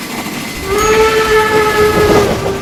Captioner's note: the whistle blew